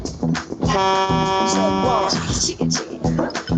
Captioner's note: upbeat music; horn honks